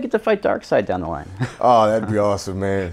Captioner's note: laughs